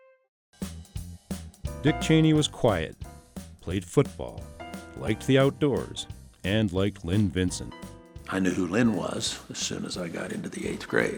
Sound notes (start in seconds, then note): 0.3 upbeat music; 1.7 voiceover